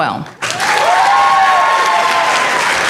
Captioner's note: applause